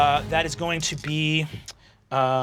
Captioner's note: humming